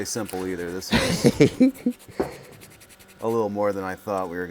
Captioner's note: man laughs